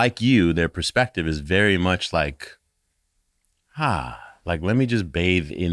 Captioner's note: sighing quietly